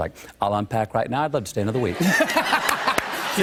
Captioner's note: laughter